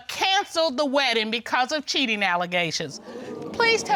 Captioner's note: audience exclaiming